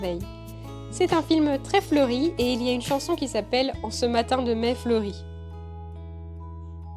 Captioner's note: in french